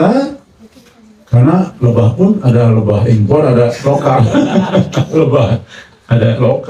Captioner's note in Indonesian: tertawa